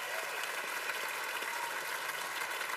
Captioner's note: cheers and applause